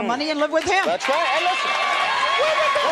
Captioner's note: applause